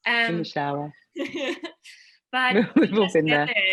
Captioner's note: laughing